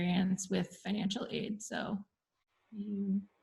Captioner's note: murmurs